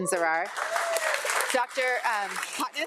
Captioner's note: audience applauding